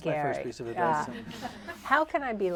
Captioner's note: laughter